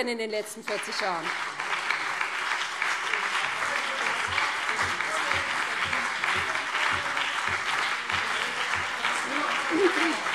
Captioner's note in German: Beifall BÜNDNIS 90/DIE GRÜNEN und vereinzelt CDU